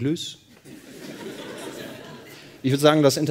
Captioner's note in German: Lachen